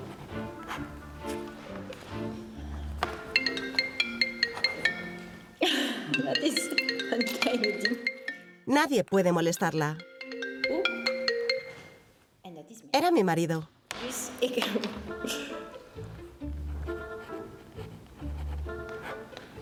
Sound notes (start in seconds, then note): 3.2 mobile phone rings